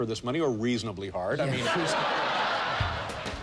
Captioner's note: laughter; jazzy music